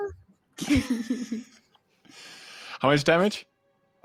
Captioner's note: people laughing